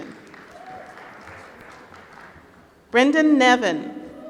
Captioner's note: applause